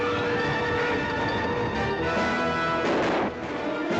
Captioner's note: train whistle blowing